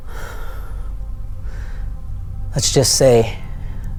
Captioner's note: exhales